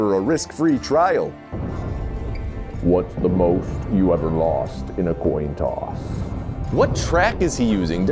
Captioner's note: explosions, Chicago Guy through wall